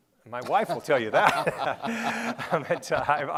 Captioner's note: laughing